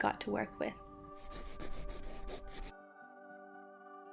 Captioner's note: pencil writing noise